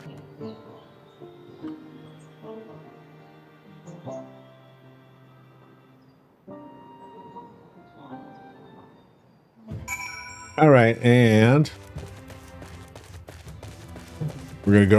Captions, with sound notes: (bell dings) All right, and we're gonna